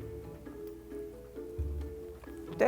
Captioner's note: chews